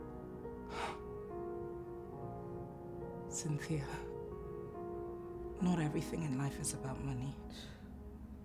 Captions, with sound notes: (Sigh) Cynthia, not everything in life is about money